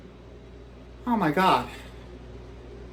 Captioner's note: gasps